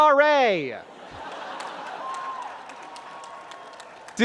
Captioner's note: laughter